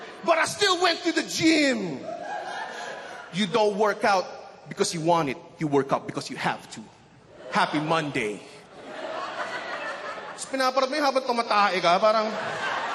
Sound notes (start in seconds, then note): 8.6 laughter